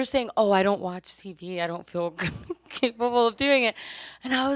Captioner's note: laughs